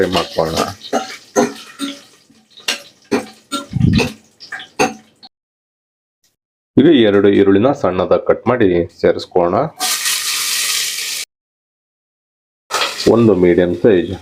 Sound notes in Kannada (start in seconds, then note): 3.7 ಗಂಟಲು ಸರಿಮಾಡಿಕೊಳ್ಳುವಿಕೆ